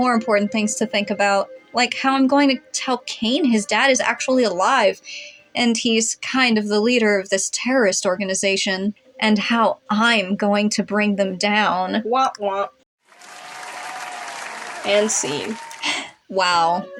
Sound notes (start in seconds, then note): 13.1 audience Clapping